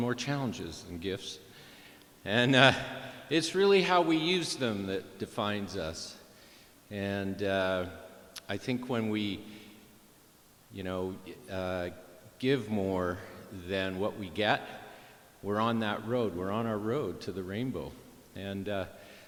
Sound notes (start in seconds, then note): none